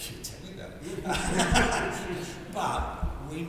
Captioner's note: group laughs